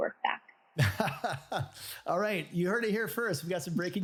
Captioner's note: laughs